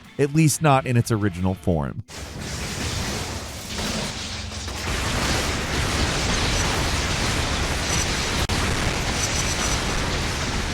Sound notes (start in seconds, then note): 2.2 explosions booming; 4.6 lightning booming